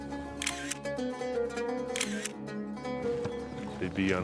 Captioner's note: light music; camera clicking